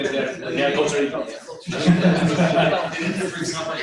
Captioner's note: laughter